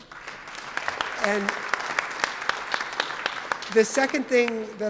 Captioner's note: audience applauds